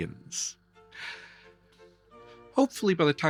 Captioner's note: sighs